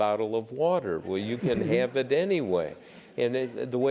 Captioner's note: laugh